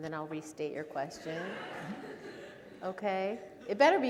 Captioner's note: audience laughing